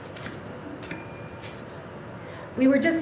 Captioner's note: bell ringing